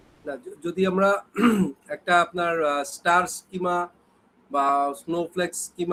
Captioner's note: clears throat